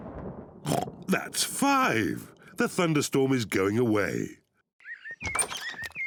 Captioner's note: thunder rumbles; oinks; birds chirp